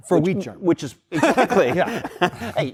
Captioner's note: laughter